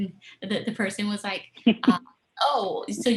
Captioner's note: laughter